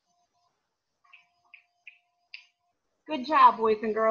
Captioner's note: fingers snapping